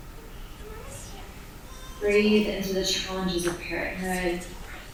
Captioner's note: baby crying